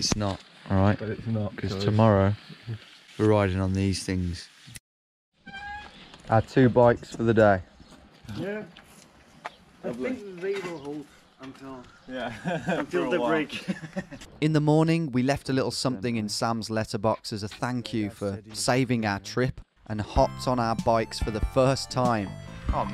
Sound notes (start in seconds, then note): 12.1 laughing